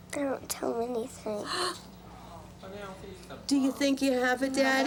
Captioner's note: gasps